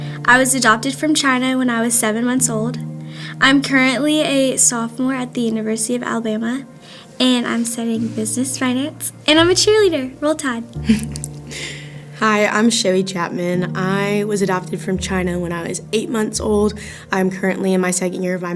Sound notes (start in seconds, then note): 10.8 laughing